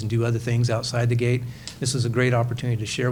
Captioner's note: none